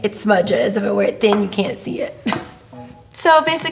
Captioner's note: laughs